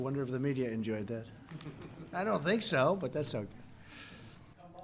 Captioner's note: laughter